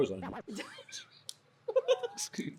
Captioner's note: all laughing